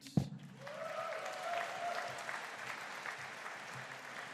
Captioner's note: audience cheering